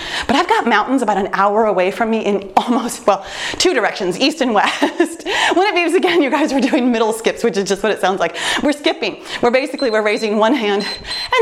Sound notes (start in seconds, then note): 5.1 laughs; 9.7 timer beeps